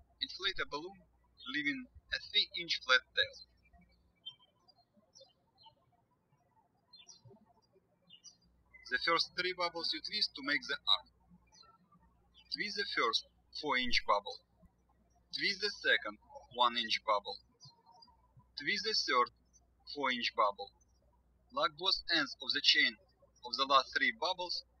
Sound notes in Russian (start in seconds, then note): 4.5 птички щебечут